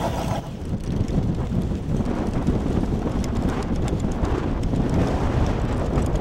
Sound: wind gusts

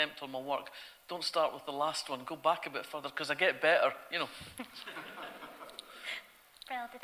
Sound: audience laughter

